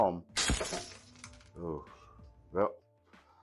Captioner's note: glass breaking